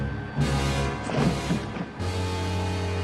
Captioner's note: loud, dramatic music; thud